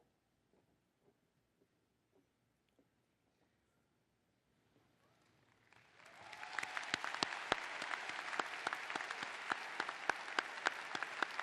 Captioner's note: applause